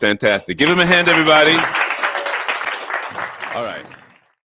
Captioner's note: audience applauding